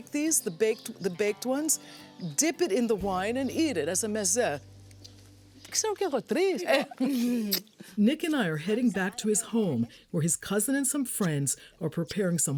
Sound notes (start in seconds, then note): 5.0 speaking in greek